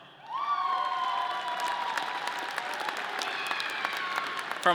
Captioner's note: audience cheering